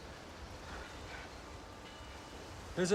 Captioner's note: none